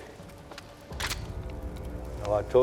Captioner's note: rifle clicks